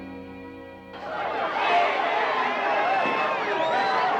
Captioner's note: crowd clamoring; whistling